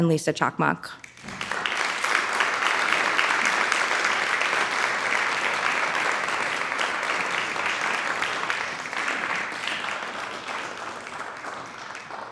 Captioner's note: audience applauds